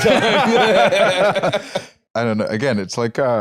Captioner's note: both laughing